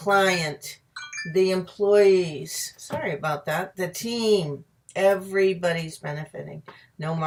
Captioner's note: phone rings